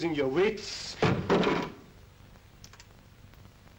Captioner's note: picture drops on ground